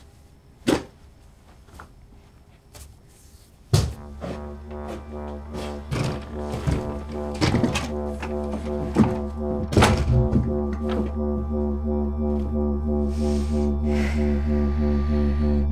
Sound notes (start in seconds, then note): 3.5 thud; 7.2 door opening and closing; 13.0 breathes deeply